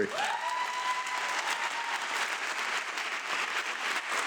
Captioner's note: audience clapping